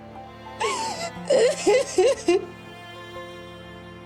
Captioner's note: crying